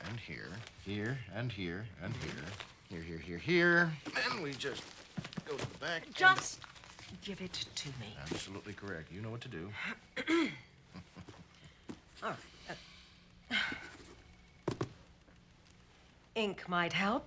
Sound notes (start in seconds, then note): 13.4 sighs